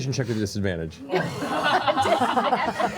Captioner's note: laughter